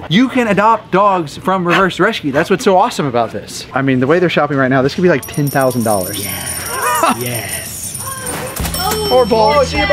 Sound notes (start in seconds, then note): 5.2 coins clinking; 8.6 cash register dinging